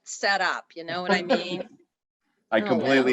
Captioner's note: laughs